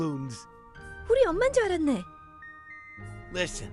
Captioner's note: speaking foreign language